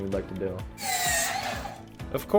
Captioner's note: sound of table saw cutting through lumber